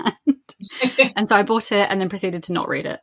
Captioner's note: laughs